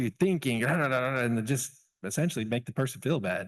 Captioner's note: angry growling